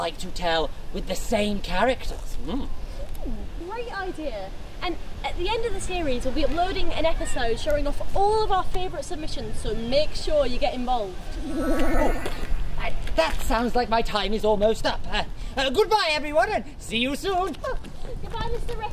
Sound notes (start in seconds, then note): 11.3 omninous time travel alert noise